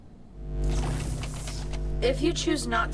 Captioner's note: electricity whooshing; electricity fizzing